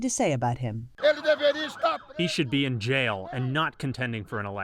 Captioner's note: through translator